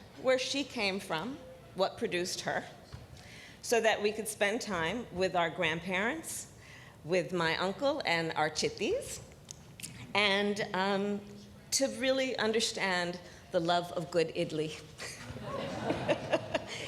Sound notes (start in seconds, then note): 15.2 laughter